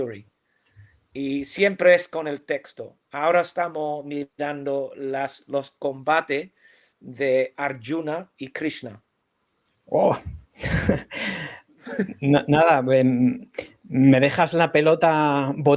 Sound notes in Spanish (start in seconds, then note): 9.5 resoplido; 10.6 risas